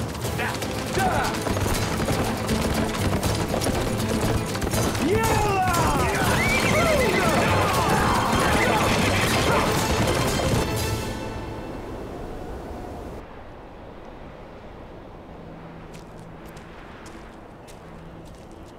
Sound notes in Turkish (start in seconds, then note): 2.3 At nalı sesleri; 8.2 Bağırma sesleri